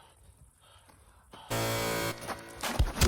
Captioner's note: buzzer